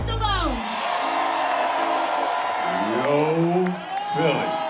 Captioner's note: cheering